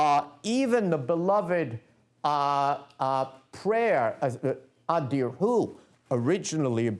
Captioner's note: non-english speech